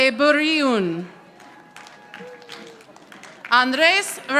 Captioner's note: audience applauding